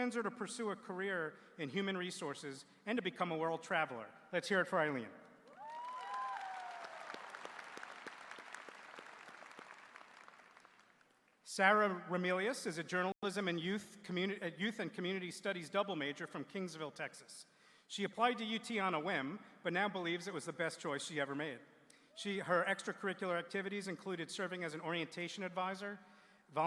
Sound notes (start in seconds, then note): 8.7 applause